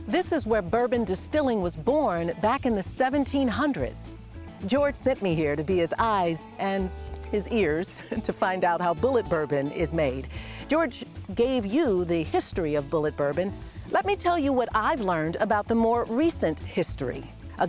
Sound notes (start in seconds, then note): 7.6 chuckles